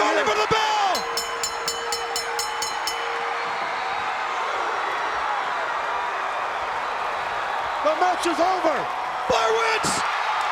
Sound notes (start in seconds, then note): 0.9 bell ringing; 10.3 crowd cheering